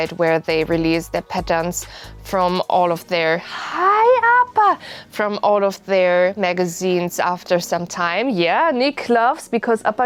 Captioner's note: happy Noises